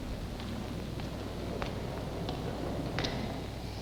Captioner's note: wind howling